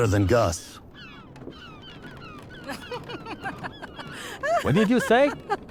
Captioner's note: laughter